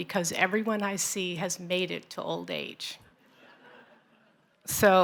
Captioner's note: laughter